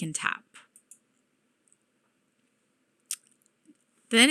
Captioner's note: mouse clicking